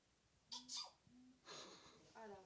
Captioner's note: Phone sneezes